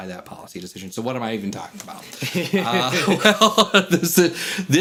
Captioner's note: chuckles